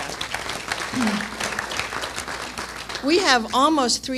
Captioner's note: applause